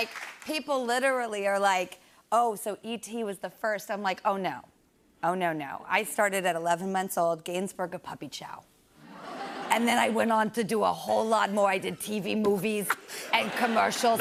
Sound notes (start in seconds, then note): 9.6 raspy voice; 14.0 raspy voice